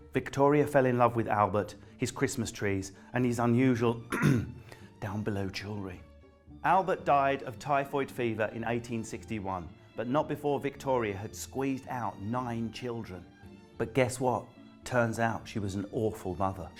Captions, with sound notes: Victoria fell in love with Albert, his Christmas trees and his unusual... [CLEARS THROAT] ...down below jewellery. Albert died of typhoid fever in 1861, but not before Victoria had squeezed out nine children. But guess what? Turns out she was an awful mother.